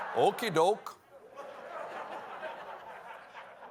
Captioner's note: laughter